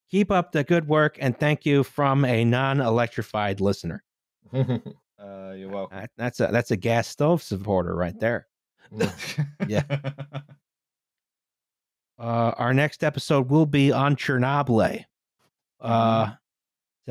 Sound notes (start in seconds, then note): 4.6 laughs; 9.0 laughter